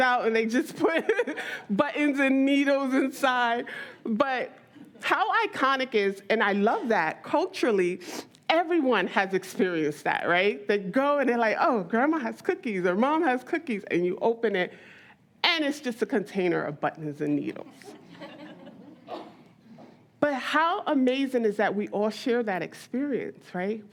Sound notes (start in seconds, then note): 18.0 audience laughs